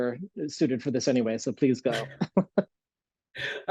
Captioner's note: laughs